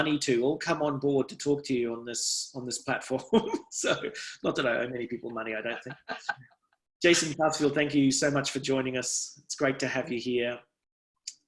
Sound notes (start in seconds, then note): 5.6 laughs